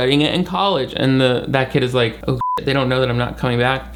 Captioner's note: beep